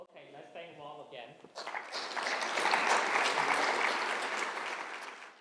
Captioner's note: applause